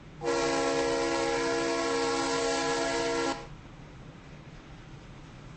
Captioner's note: Conrail Horn in the distance